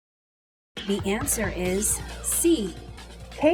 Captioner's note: female announcer speaking